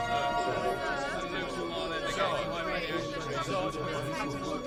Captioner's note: people chattering